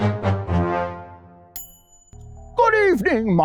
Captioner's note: ding